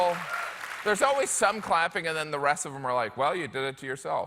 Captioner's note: applause